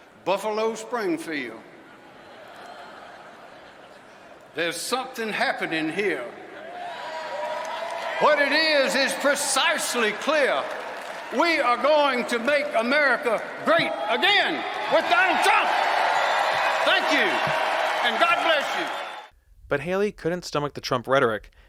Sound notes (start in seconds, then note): 1.8 audience laughs; 6.5 audience cheers